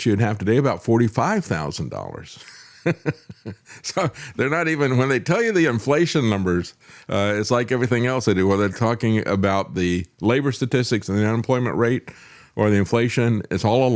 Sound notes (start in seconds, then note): 2.4 laughs